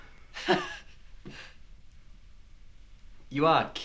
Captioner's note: chuckles